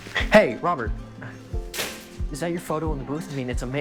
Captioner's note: door thuds